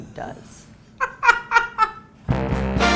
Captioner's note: laughs